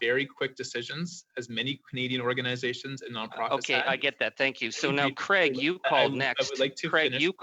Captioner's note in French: voix de l'interprète